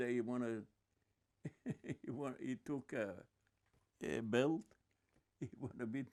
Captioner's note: laughing